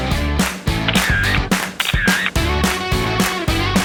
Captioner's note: camera sounds